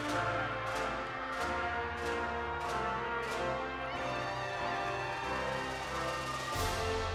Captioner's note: audience continues applauding and cheering